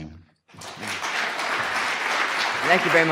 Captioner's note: audience applause